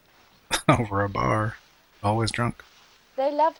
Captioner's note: chuckling